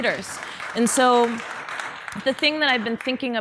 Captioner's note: audience applause